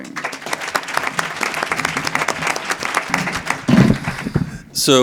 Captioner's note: audience applause